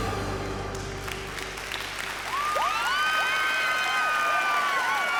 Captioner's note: cheers and applause